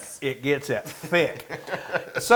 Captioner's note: laughs